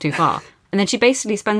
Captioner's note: laughs